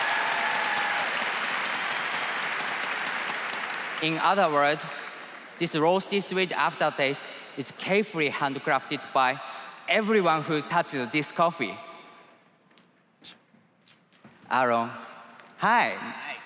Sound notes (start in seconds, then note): 3.4 applause